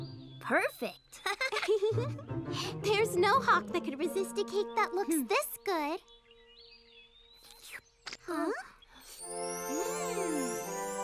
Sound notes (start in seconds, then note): 1.2 both chuckle; 8.0 slurps